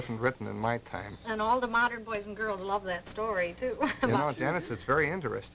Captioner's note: laughs